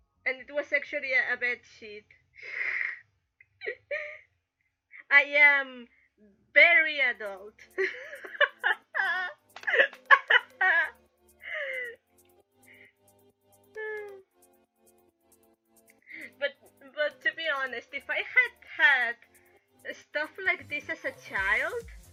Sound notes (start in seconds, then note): 2.4 chuckle; 9.5 laugh